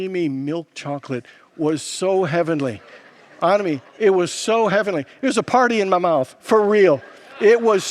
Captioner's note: congregants laugh